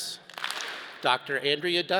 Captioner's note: all clap